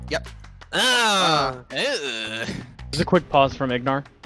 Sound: groans

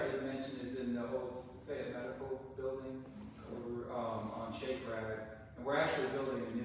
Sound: faintly speaking

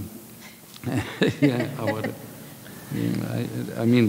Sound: laughing

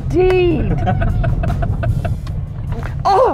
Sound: laughter

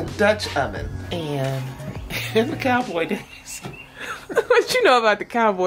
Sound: chuckles

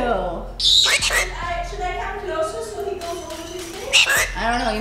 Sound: bird squawking

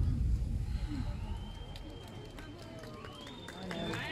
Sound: applause, cheering

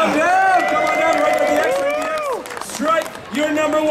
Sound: audience cheering

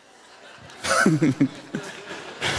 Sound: laughter

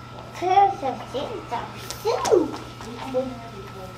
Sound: toddler babbles

